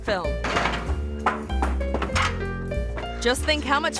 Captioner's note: door clatters; body thuds